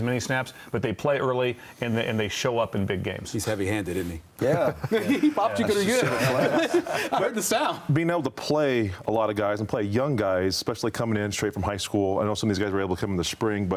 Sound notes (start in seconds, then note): 7.5 laughter